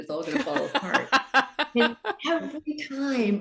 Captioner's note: laughs